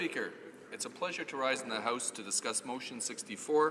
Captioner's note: speaking Italian